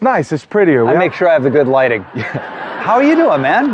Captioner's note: all laughing